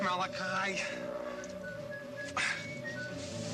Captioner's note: watch beeping